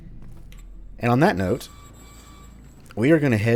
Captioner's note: gate squeaks